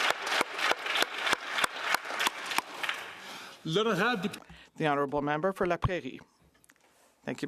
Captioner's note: applause